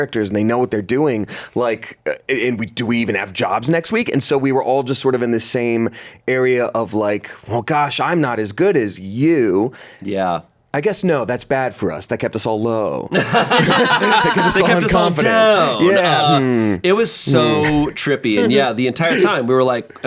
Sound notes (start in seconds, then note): 13.1 everyone laughs